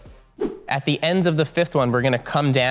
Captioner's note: air whooshing